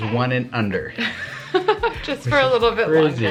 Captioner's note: laughs